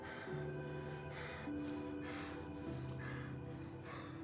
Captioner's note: kids panting